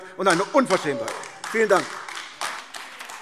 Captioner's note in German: Lebhafter Beifall AfD - Zurufe BÜNDNIS 90/DIE GRÜNEN und SPD